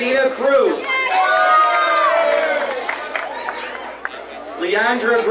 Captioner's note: crowd cheering